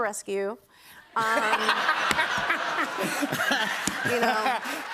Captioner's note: laughter